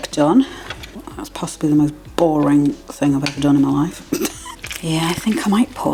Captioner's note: laugh